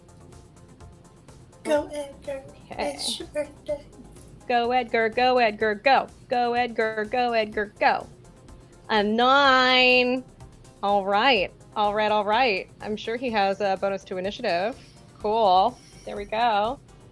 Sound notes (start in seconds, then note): 2.0 singing; 4.8 chanting